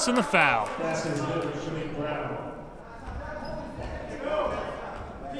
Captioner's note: players murmuring